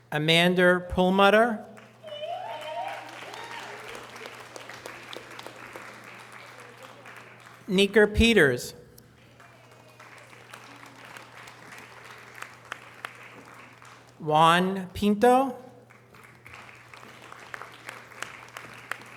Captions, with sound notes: Amanda Pullmater. (audience cheering and applause) Kamika Peters. (audience applause) Juan Pinta. (audience applause)